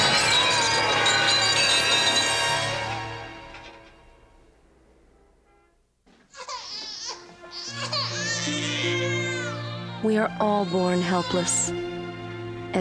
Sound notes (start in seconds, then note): 0.0 grunting; 0.0 grunts; 0.0 gunshots; 3.4 baby Crying; 3.4 glass Breaking